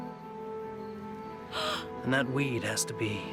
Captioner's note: gasps